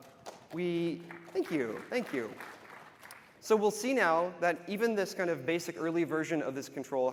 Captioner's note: applause